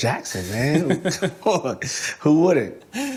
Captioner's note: laughing